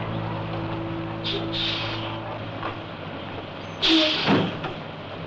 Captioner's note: air brakes hissing